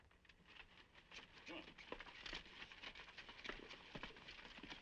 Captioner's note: horse hooves clopping